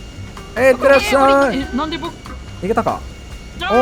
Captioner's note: distant Scream